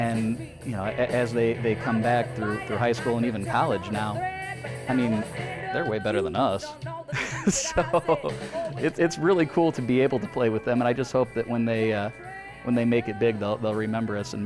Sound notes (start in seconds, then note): 7.1 laughs